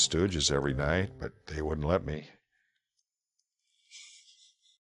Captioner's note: laughing